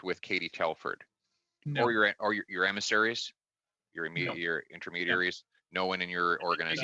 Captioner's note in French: voix de l'interprète